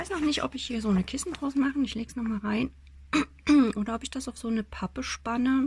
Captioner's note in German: husten; räuspern